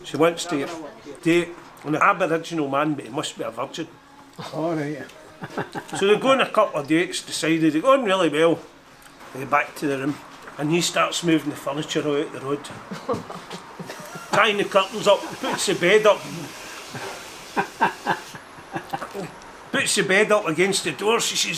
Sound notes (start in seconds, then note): 12.8 Janice laughs; 16.8 Danny DeVito laughs